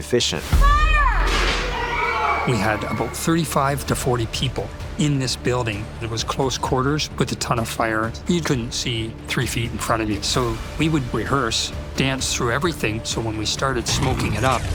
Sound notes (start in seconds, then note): 0.5 all scream